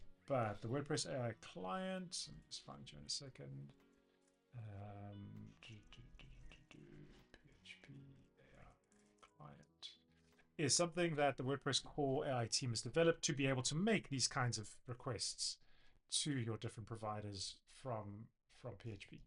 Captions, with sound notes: But the WordPress AI client, it's fine, join a second. (murmurs) Is something that the WordPress core AI team has developed to be able to make these kinds of requests to your different providers from PHP.